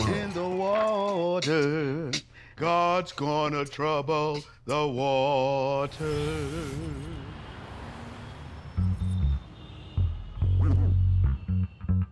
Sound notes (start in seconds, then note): 7.4 street sounds; 8.4 guitar music